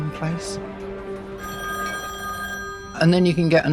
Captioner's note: phone ringing